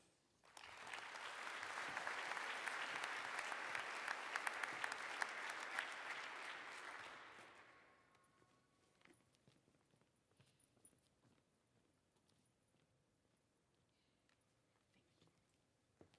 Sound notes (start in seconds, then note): 3.2 applause